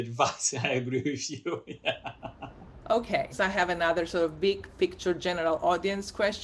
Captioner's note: laughter